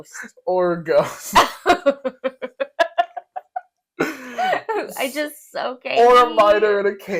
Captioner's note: laugh